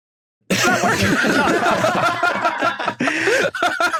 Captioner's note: group laughs uproariously